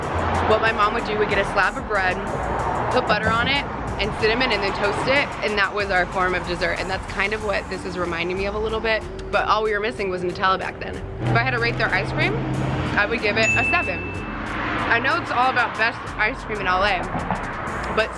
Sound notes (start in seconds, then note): 13.4 dings